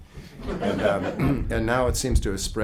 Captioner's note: group laughing